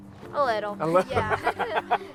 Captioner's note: both laughing